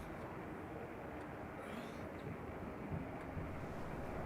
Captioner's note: wind howling